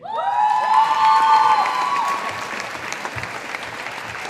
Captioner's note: audience applauding